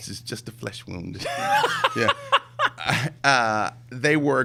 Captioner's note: laughs